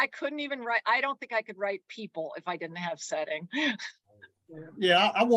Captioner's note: chuckles